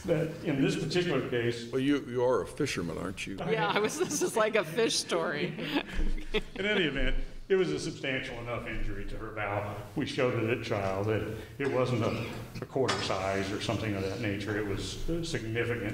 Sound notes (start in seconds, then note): 5.4 laughter